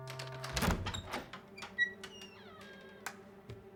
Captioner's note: door creaking